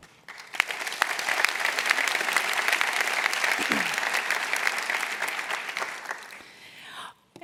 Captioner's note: applause